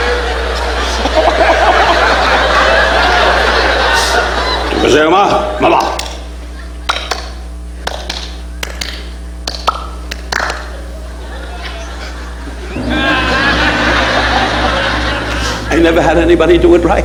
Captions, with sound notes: (Don imitating Japanese language) (all clapping) I never had anybody do it right.